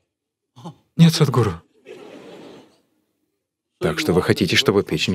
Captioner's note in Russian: Смех